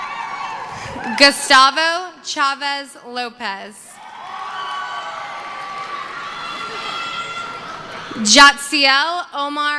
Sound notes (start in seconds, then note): 0.0 screaming; 0.0 cheering; 3.9 cheering